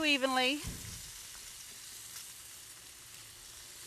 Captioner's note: meat burning